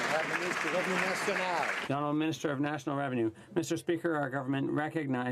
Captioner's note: some Applause